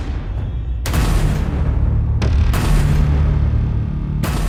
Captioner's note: gun firing